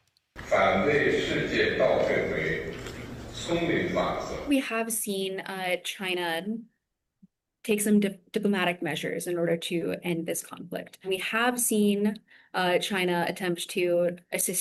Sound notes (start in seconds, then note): 2.1 speaking alternate language